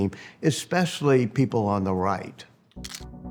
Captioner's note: camera clicking